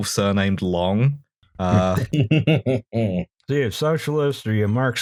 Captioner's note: laughter